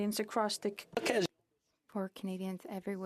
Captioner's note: speaking French